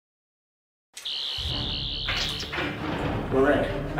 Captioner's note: unlocking door sound; buzzing